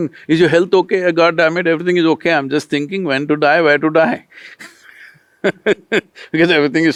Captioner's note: laughs